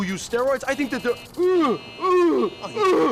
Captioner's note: buzzer; gasping